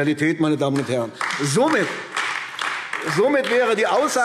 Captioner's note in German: Beifall AfD